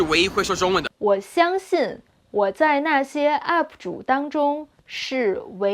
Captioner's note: speaking in Mandarin